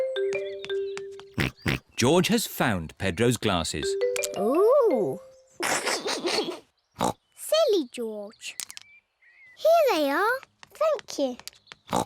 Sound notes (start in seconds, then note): 1.4 snorts; 5.6 laughs; 7.0 snorts